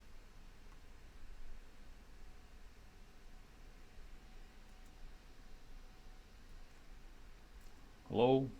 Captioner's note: silence